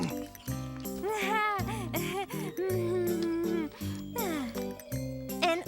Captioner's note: nervously laughs